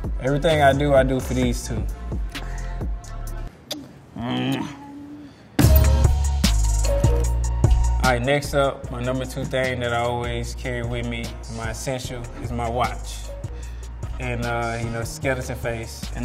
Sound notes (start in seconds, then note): 3.3 smooching; 5.7 rhythmic hip hop music